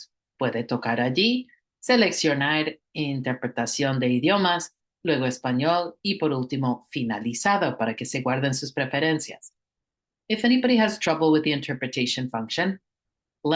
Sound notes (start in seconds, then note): 10.5 hablando inglés